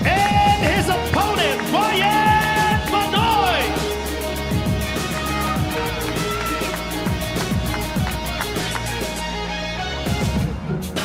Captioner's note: applause